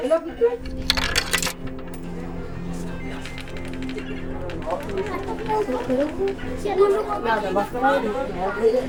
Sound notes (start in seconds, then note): 4.0 upbeat music; 4.7 speaking foreign language